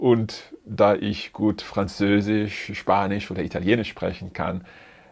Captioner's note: speaks in foreign language